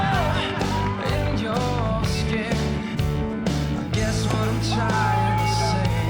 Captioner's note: everyone cheers and shouts